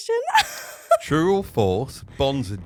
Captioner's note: laughing